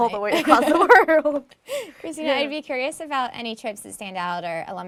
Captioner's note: laugh